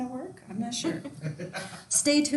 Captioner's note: laughing